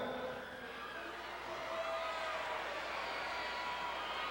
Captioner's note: crowd cheering